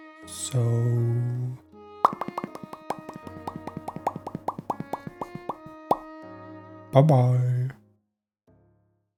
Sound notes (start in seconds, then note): 5.4 pop pop; 5.9 pop!